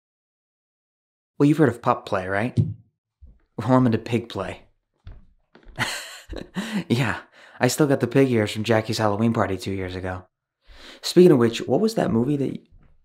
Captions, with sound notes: - Well, you’ve heard of pup play, right…? [THWACK] Well, I’m into pig play. [LAUGHS] Yeah. I still got the pig ears from Jackie’s Halloween party two years ago. Speakin’ of which, what was that movie that you-?